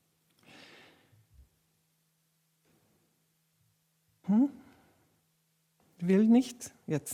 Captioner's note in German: Stille